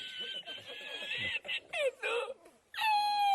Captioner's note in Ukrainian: сміх